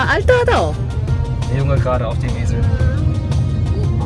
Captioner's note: speaking German